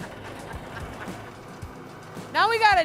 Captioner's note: laughing